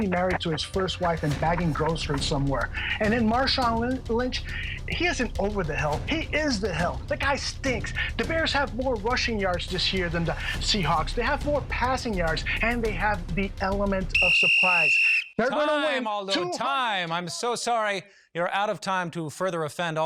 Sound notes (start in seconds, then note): 14.1 whistle